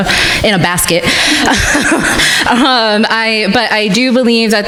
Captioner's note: crowd laughing